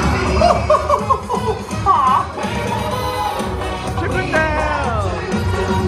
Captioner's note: Mickey Mouse laughing